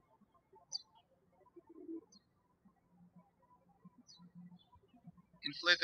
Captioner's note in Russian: птички щебечут